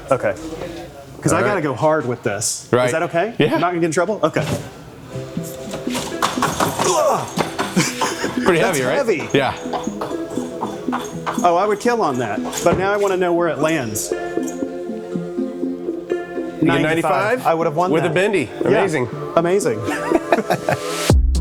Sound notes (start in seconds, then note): 5.3 energetic music; 5.3 wheel whirring; 10.1 energetic music; 13.4 energetic music; 19.8 both laughing; 21.1 mellow music